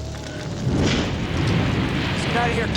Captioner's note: fire rumbling